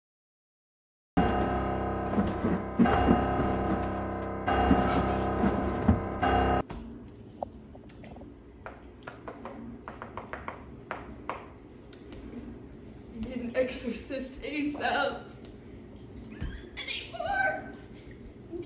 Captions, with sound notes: [THUDDING] [REPEATING PIANO NOTE] [FINGERS TAPPING] I need an exorcist ASAP, I can't do this anymore!